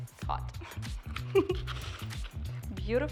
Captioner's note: laughs